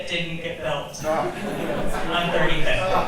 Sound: audience chuckles

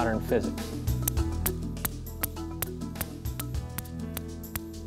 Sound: balls clinking

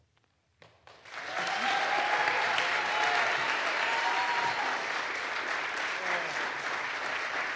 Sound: audience applauds; audience cheers

